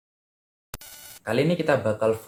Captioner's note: interference sound